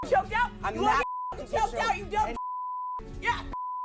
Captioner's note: beep